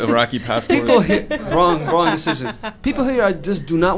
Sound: laughter

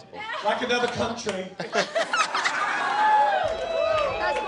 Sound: laughter

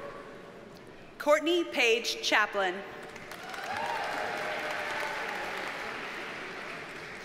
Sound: audience cheers and applauds

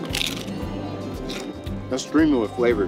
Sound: chip crunching

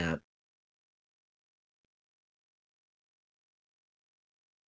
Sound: A pause

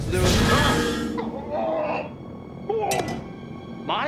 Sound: groaning

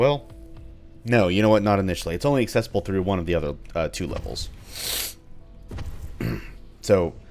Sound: clears throat

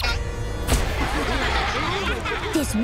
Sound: laughing

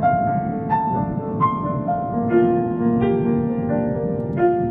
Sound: ocean echoing

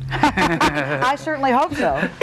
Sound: laughing

